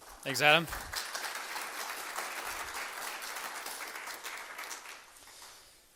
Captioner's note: applause